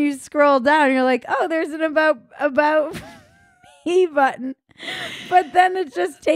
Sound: laughing

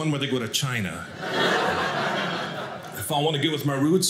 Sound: audience laughing

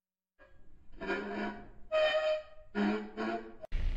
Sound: metal squeaking

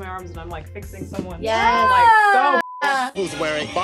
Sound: beep

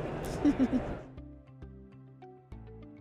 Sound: laughs; light music

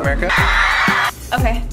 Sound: crowd screams

